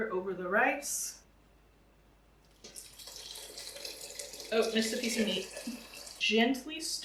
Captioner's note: liquid sloshing